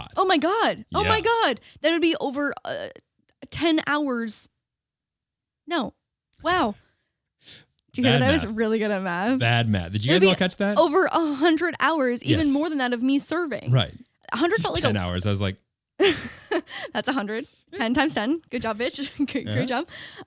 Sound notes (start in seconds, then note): 8.0 laughing; 14.4 laughing